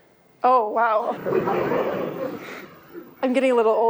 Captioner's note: laughter